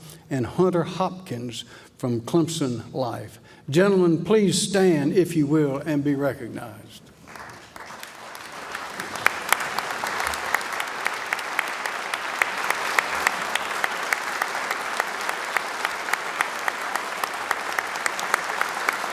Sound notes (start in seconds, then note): 7.2 applause